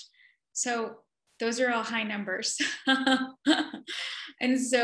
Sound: laughs

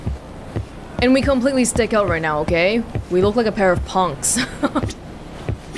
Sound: chuckles

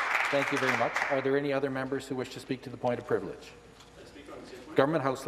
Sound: some Applause

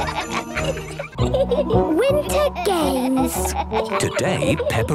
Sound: giggling

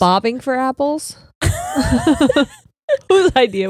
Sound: both laughing

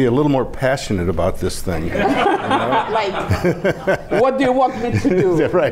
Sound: laughing

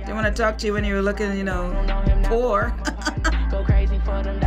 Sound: chuckles

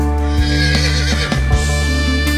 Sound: horse whinnying; swanky music

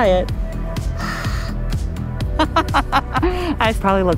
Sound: exhales; laughs

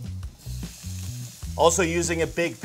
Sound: pan sizzling

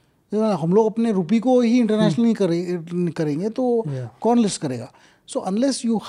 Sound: speaks in Hindi

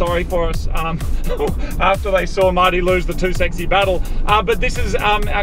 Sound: laughing

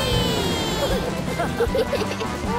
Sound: laughing

